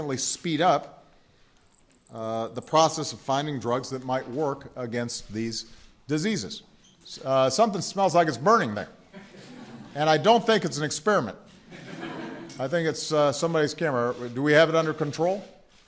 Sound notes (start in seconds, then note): 11.6 laughter